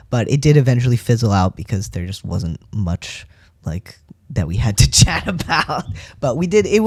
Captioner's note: laugh